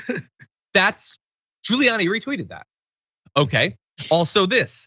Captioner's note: laugh